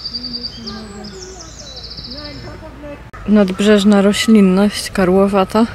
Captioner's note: Birds singing in Świnoujście